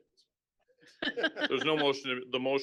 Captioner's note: laughing